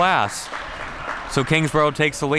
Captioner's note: crowd clapping